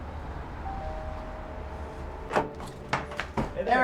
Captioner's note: bell rings